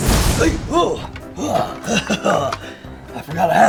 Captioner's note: Beetlejuice grunts